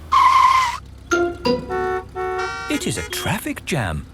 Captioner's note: tires screeching, horns honking